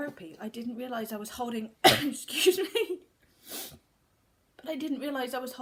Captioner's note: cough